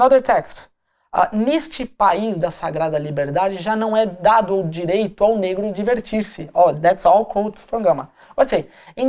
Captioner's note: speaking portuguese